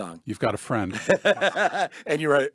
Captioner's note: men laugh